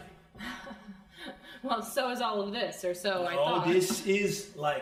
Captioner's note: laughs